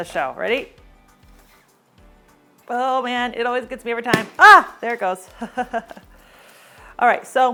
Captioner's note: pop